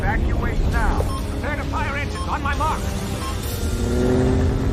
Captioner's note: beeping